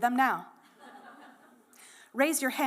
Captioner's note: laughter